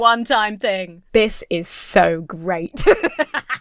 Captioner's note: Emma laughs